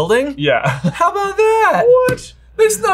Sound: laughs

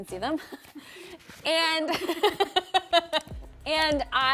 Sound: laughs

